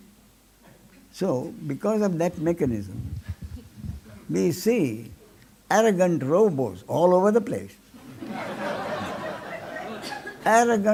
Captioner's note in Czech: smích